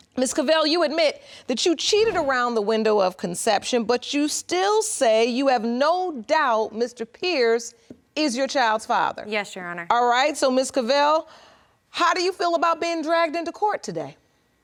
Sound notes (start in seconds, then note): none